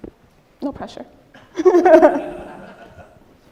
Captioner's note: laughing